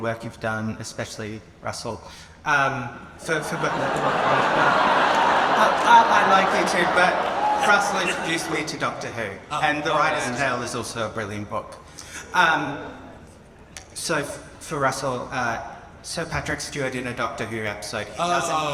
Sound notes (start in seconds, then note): 3.2 audience laughs